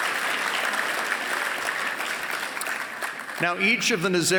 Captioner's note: applause